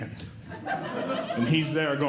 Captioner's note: audience Laughing